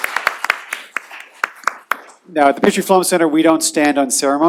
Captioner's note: applause